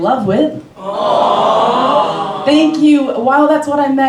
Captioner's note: crowd awwws of their own volition